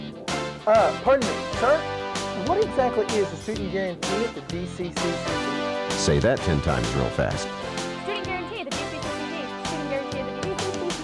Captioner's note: babbling sounds